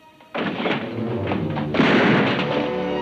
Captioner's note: door bangs; gun bangs